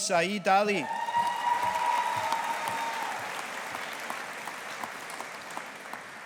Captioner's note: audience applauding